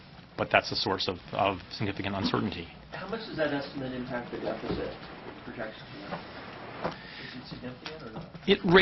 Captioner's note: reporter talking